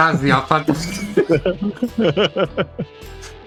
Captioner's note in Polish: śmiech